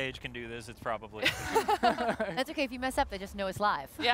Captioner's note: laughter